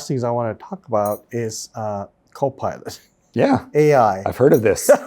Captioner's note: laughs